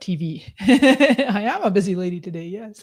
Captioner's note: laughs